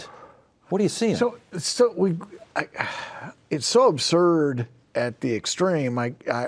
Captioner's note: sighs